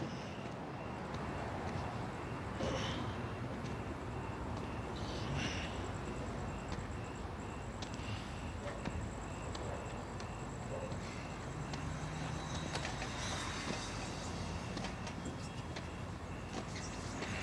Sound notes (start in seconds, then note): 3.2 cars passing in the distance; 3.2 insects buzzing